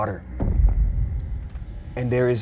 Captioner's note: thump resounds